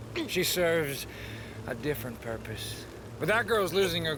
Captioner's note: none